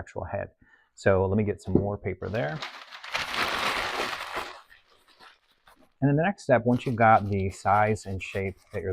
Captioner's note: crumple paper